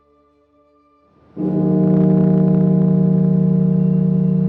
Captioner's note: bell tolling